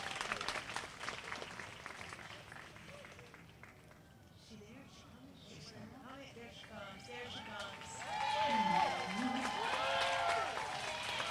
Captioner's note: applause